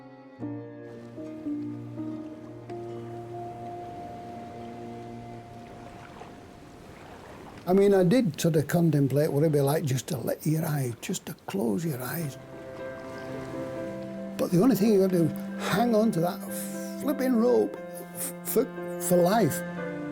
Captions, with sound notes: (gentle music continues) (water sloshing) - I mean, I did sorta contemplate what it'd be like just to close your eyes. But the only thing you gotta do is hang onto that flipping rope for life.